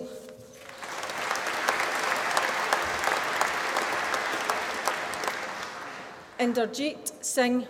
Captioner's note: applause